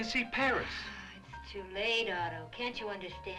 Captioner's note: sighs